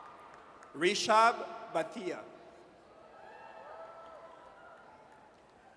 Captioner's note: audience cheers